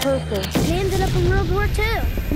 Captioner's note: bang